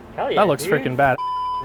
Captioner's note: beep